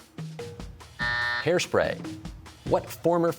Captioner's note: buzzer sounds